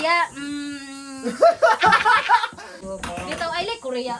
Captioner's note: everyone laughing